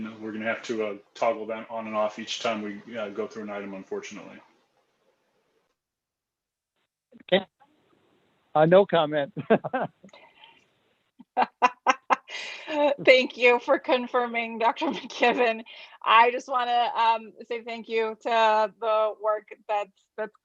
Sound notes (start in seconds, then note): 9.2 chuckles; 11.3 laughs